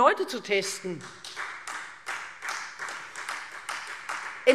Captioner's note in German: Beifall Freie Demokraten